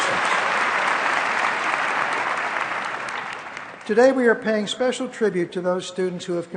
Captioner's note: applause